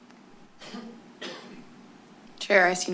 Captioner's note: coughs